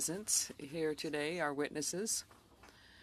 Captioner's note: speaking French